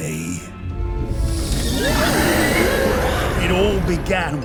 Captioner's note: Unholy Moth God screeches